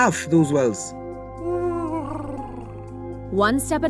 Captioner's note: Huti hoots